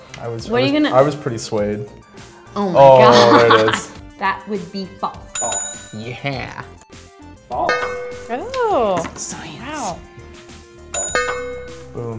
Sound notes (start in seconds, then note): 5.3 bell rings; 5.7 voiceover; 7.6 bell dongs; 7.9 voiceover; 10.9 bell dongs; 11.4 voiceover